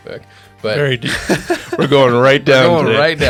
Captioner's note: laughing